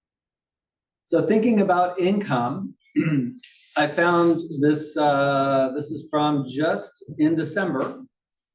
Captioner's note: cough